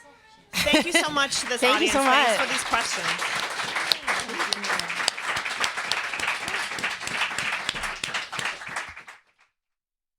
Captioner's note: applause